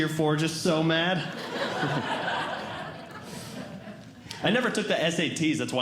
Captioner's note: audience Laughing